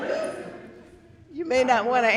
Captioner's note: audience laughing